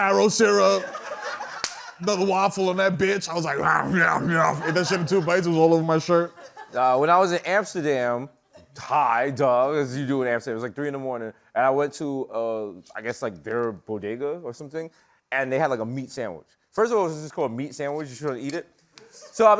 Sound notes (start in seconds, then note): 1.6 slaps hand